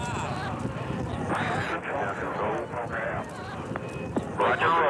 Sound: radio chatter

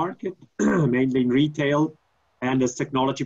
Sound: clearing throat

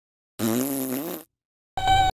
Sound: raspberries!

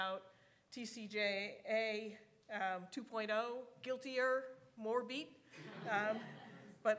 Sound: audience chuckling

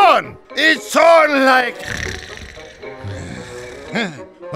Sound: snores

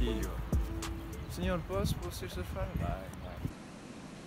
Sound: portuguese

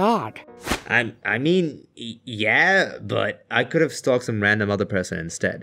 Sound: poof

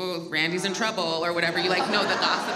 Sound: audience laughs

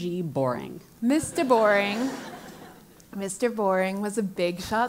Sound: laugh

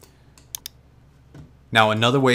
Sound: mouse clicks

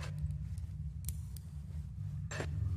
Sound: carabiner clicking

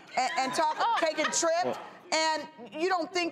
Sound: audience laughing

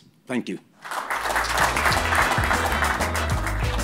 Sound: clapping; upbeat instrumental music

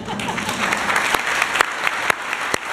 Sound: applause

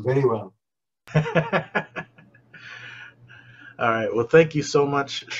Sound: laughs

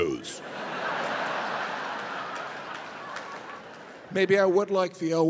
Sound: audience laughing

